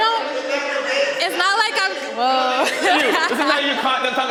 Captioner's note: panelists indistinctly chattering; laughing